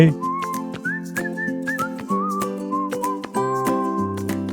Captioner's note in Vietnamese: huýt sáo